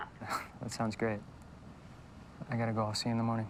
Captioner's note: chuckles